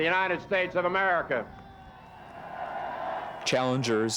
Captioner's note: cheering